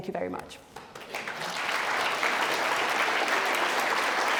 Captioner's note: clapping